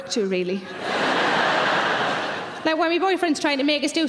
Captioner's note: audience laughing